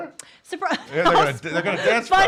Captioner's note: laughs